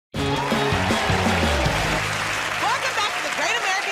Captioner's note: cheers and applause